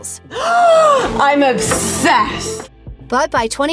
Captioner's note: gasp